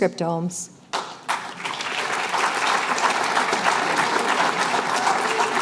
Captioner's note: applause